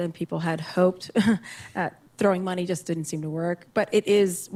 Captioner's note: chuckles